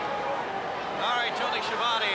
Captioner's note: crowd chatter